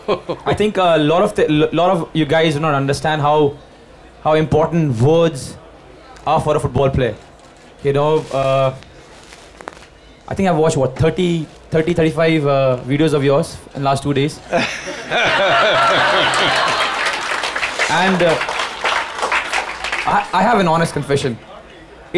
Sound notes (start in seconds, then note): 0.0 Sadhguru Laughs; 14.6 laughter/Applause